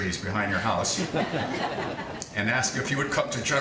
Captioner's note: audience laughing